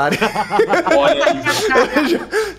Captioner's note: laughs